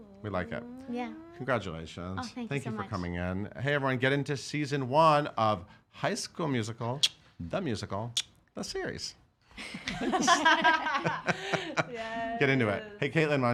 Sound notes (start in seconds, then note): 9.6 laughing